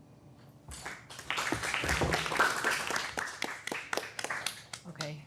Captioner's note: everyone applauding